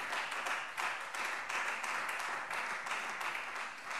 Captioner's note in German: Beifall Freie Demokraten